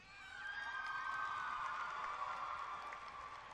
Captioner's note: cheering